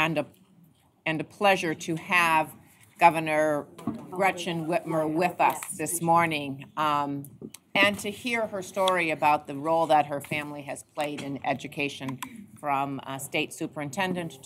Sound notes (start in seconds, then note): none